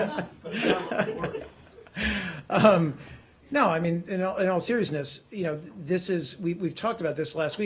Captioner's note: laughter